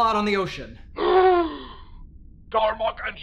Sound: gasp!

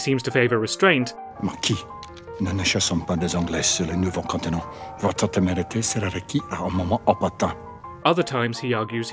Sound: in french

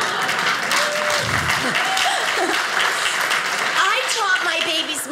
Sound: audience applauding; audience laughing

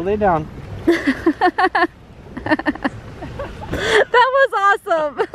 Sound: laughs

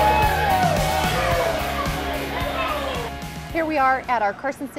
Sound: cheering

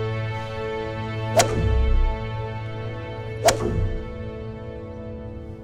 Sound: swinging club

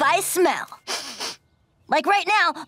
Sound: sniffing

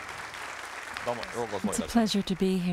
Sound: speaking japanese

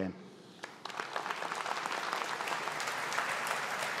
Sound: audience applauding

